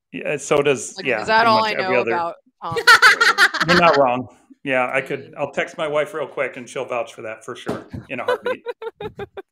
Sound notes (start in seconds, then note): 2.7 laughing; 8.1 laughing